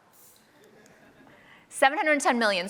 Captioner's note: laughter